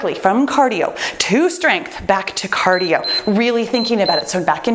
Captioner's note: timer beeps